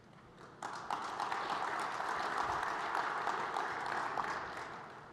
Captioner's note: applause